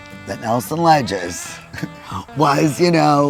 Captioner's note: chuckling